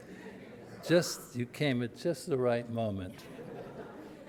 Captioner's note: audience laughter; audience laughter